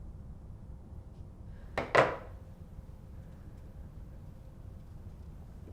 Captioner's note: dropping phone on desk